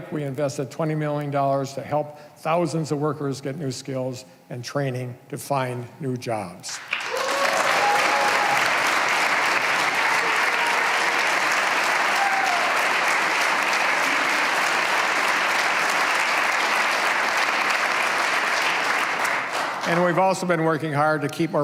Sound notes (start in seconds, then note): 9.7 cheers and applause